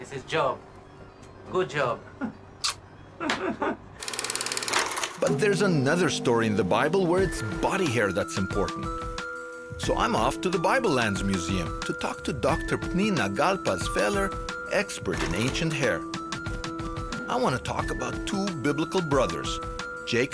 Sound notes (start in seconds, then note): 2.6 loud kiss